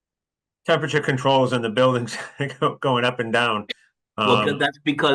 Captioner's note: laugh